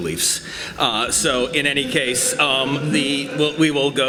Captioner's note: audience laughs